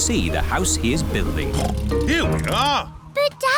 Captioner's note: oinks